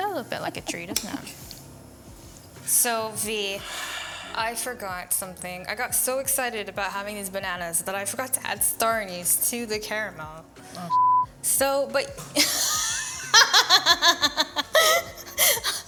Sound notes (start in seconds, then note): 10.9 beep; 12.4 laughing